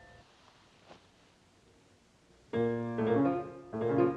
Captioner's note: none